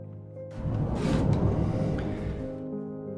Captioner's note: door slides open